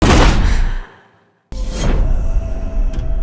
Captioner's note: gasps